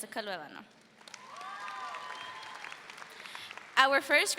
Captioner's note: audience cheers